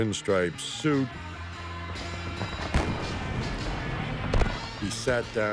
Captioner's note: rock music; guns firing